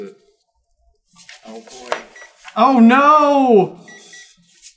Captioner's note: gentle beeping